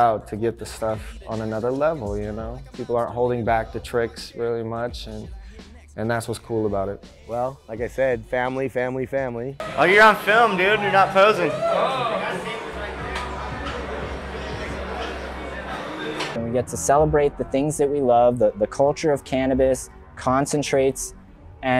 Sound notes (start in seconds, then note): 11.5 background music; 11.5 people chattering